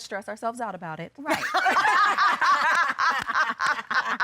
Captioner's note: laughing